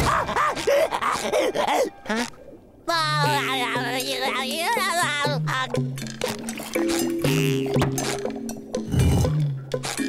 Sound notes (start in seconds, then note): 2.4 laughing